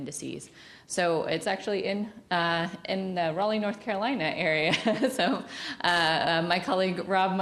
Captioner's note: laughs